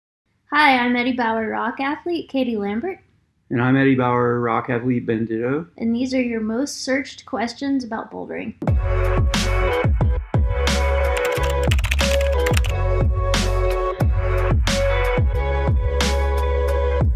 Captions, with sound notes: - Hi, I'm Eddie Bauer Rock Athlete, Katie Lambert. - And I'm Eddie Bauer Rock Athlete, Ben Ditto. - And these are your most searched questions about bouldering. (upbeat music) (keyboard clicking) (upbeat music)